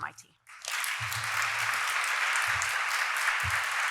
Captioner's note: applause